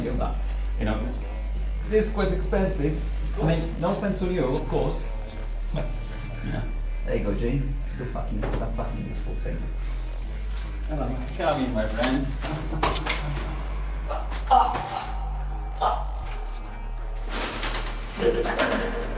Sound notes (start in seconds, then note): 13.8 Lex gasps and grunts